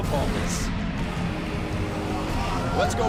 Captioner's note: crowd chatter